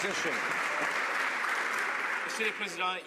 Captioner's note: some Applause